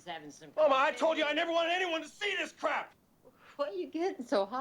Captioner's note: shouting